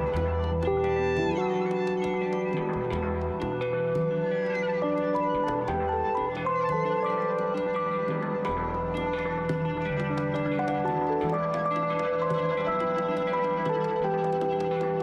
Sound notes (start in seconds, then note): 2.2 applause